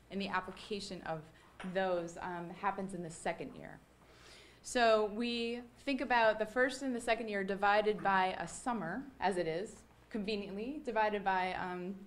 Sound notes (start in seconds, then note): none